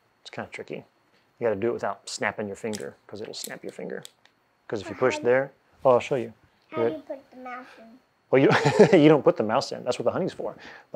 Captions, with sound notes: It's kind of tricky. You gotta do it without snapping your finger, 'cause it'll snap your finger. 'Cause if you push there, oh, I'll show you. - And you put the mouse in. - Well, (laughing) you don't put the mouse in, that's what the honey's for.